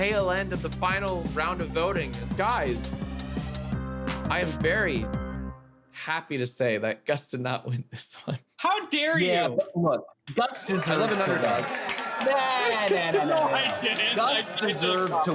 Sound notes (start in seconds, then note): 10.6 cheering sound effect; 13.9 laughing